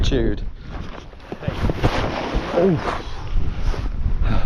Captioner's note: grunts